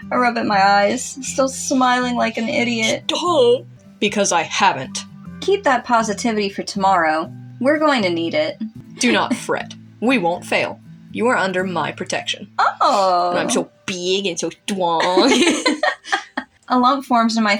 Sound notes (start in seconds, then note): 14.9 giggle; 15.0 chuckle